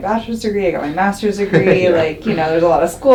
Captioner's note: doctor laughs